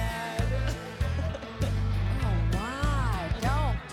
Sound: laughter

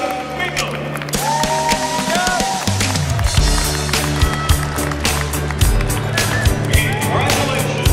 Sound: audience applause

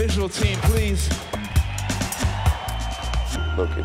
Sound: cheering and applause

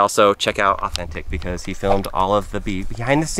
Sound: air whooshing

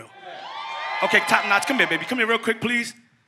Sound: audience cheers

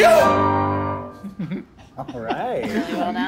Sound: judges laughing

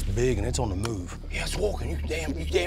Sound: whispering

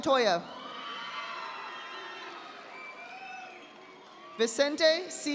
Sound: audience applauding

